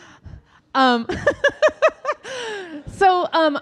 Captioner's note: audience laughing; laughing